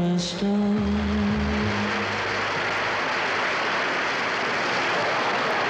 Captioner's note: audience applauds